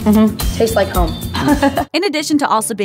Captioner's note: laughs